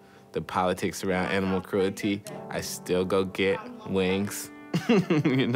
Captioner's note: laughs